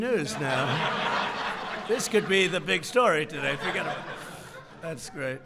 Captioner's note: laughter